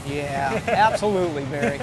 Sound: laughter

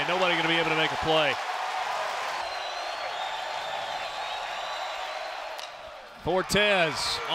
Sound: crowd cheering

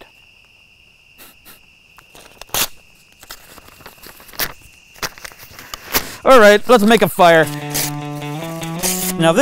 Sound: snickers

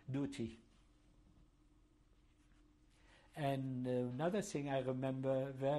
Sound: pauses for 3 seconds

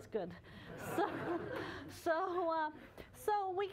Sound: laughter

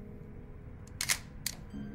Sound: shutter sounds

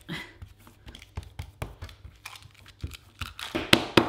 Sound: patting

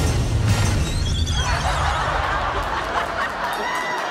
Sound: cheering and laughing

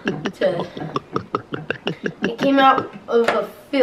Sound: gulping

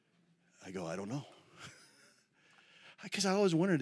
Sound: laughs

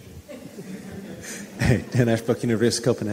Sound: audience laughing

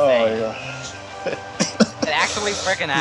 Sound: laughing

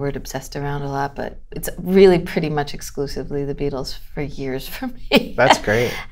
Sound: laughter

